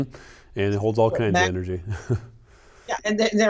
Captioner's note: laughs